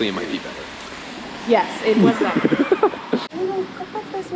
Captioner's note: laughs